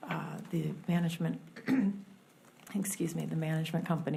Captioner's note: clears throat